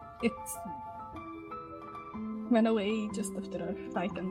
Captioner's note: none